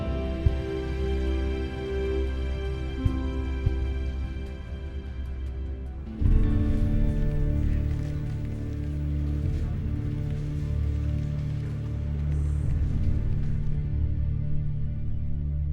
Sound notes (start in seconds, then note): 6.4 agents chattering; 6.4 tense music